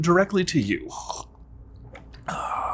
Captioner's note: sips coffee